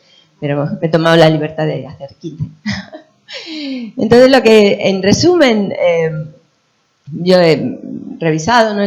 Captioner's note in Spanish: risas